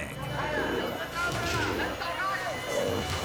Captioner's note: orangutan snarling